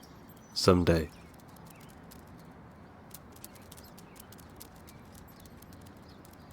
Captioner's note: birds chirping; dog claws clicking